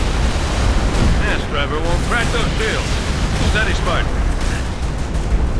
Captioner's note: radio